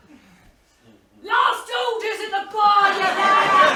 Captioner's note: rough accent